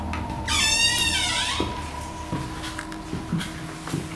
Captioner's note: door creaks